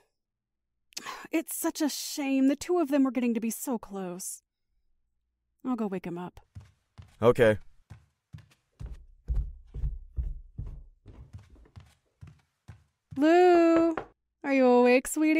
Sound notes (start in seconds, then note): 7.7 In Andy’s voice; 8.8 knocks on door; 14.1 door opens